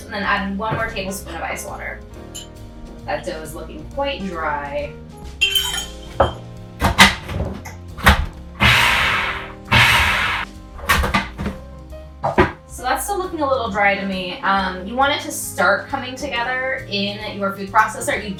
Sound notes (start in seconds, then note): 8.5 food processor blending